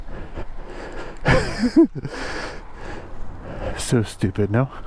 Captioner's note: laughing